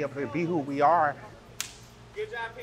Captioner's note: high-fives